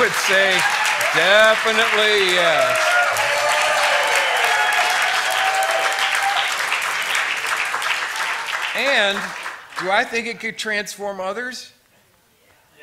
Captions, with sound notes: I would say, definitely yes. [Applause] And, do I think it could transform others?